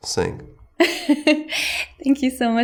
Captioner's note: laughing